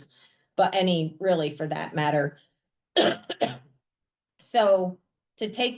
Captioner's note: coughs